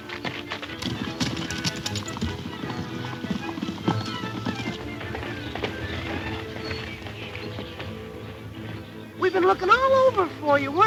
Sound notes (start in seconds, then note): 1.3 urgent music; 3.3 horses hoof beats